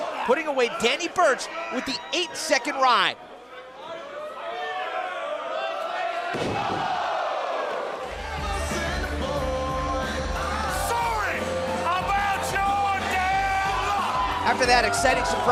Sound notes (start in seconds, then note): 3.3 crowd cheering